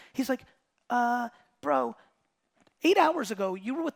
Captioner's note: none